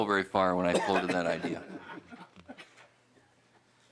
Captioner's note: laughter